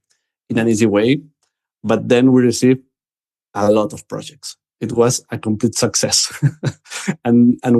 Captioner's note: laughs